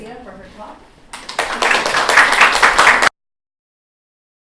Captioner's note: applause